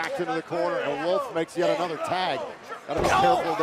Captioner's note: none